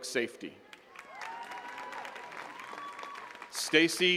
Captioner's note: attendees cheering and clapping